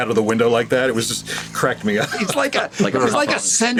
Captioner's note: chuckles